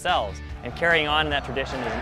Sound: crowd

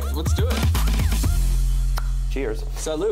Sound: clicks tongue

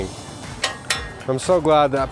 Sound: lock snapping

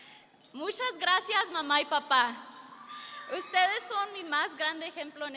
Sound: speaking foreign language

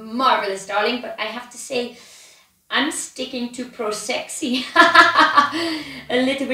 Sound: laughs

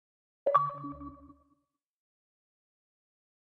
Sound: bleep Bloop

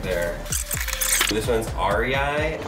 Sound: video squelches

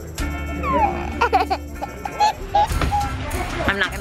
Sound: giggling

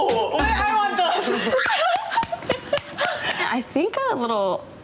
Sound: laughing

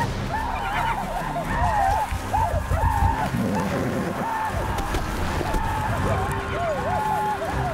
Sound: indian war cries

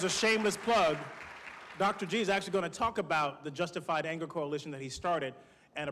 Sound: applause

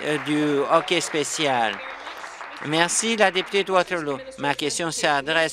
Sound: applause

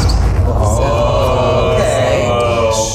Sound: all exclaiming

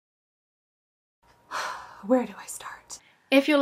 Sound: sigh

